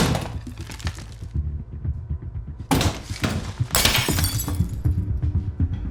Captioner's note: very loud banging; wall smashing